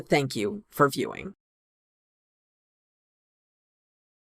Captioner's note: no audio